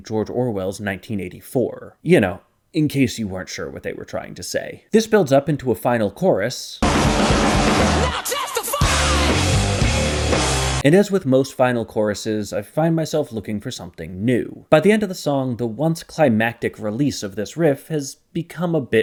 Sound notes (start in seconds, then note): 6.8 bang